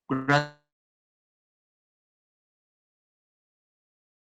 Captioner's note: silence